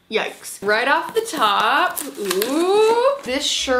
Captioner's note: box crinkling